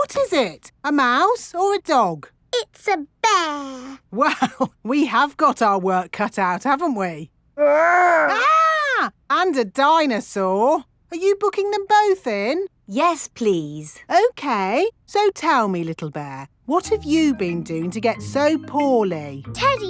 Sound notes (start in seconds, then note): 4.4 chuckling; 8.2 mock screaming